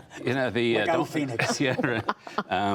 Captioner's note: laughter